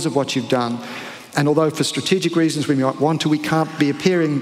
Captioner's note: foreign accent